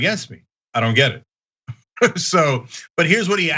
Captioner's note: laugh